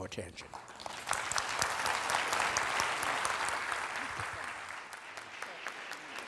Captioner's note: applauding